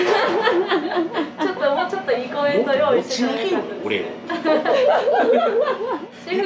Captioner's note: laughs